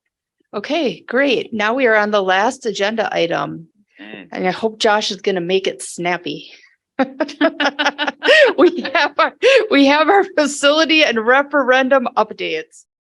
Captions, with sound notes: Okay great. Now we are on the last agenda item and I hope Josh is gonna make it snappy. (laughing) We have our facility and referendum updates.